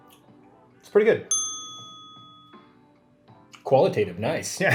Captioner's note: bell rings